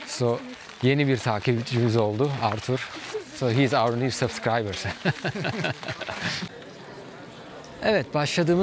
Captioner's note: laughter